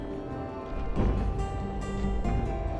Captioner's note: footsteps thud